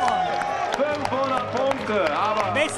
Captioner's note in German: Jubel, Applaus